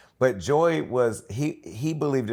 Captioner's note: none